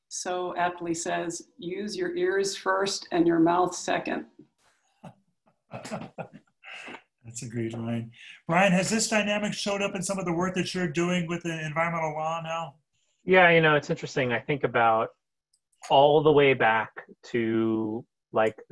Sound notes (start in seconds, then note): 5.7 laughing